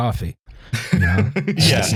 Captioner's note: laughs